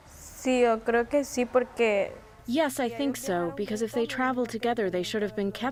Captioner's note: through translator